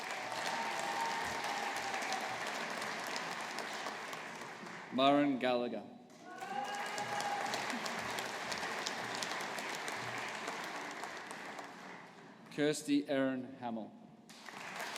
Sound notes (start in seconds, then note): 0.0 audience applauding; 6.2 audience applauding